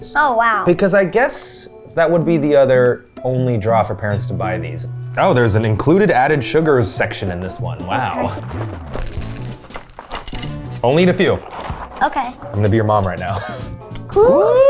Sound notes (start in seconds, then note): 7.8 cereal trickling; 8.1 speaking faintly; 13.9 chuckles